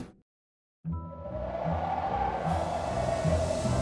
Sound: wind howling, leaves rustling

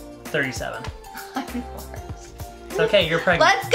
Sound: laughs

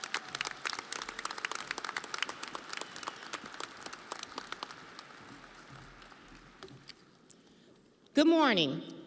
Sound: audience applauding

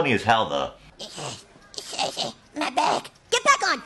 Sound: Cartman voice

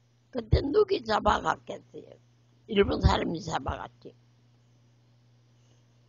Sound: speaks in foreign language

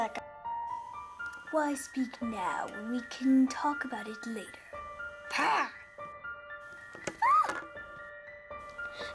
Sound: shrieks

